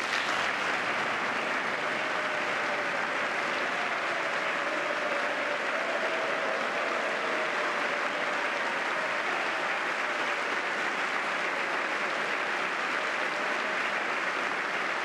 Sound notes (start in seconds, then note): 4.0 applause